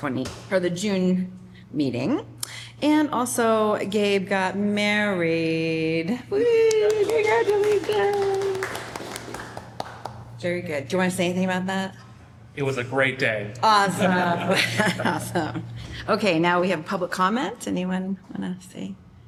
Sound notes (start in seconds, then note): 6.7 applause; 13.9 laughter